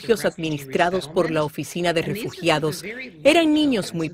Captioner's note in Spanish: habla en ingés